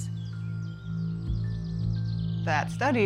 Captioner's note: wildlife chittering